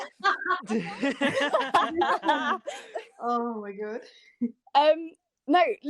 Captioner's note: laughter